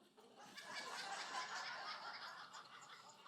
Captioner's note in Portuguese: risos da plateia